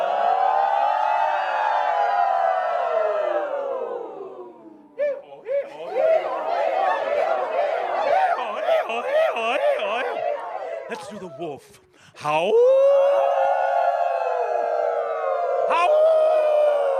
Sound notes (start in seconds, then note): 0.0 audience applause; 0.0 leads them in making chaotic noises